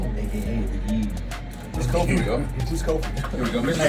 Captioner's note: laugh